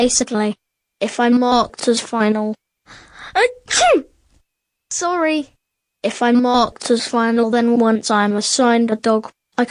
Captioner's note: sneeze